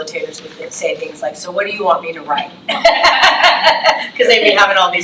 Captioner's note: laughs